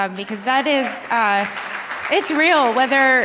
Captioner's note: audience applauding